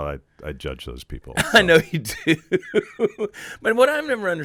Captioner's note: laughing